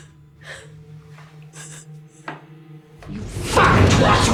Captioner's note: crying